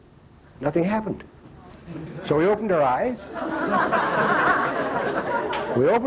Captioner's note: laughter